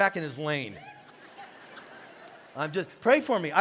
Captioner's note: congregation laughing